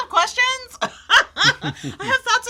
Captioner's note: laughs